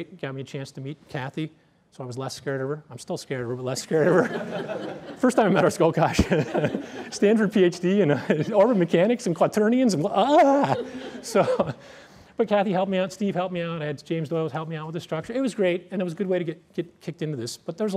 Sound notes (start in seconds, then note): 3.9 laughter